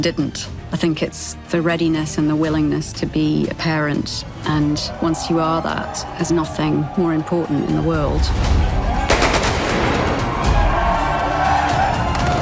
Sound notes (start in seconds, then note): 9.0 gunshots; 9.6 cheering